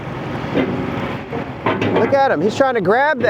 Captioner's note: claw banging